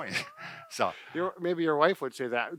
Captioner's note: both laughing